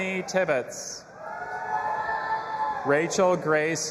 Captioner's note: audience applauding and cheering